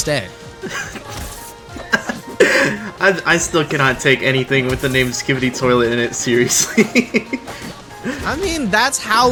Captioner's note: laughs